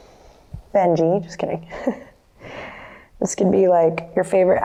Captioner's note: laughs